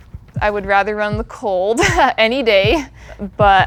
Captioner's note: laughs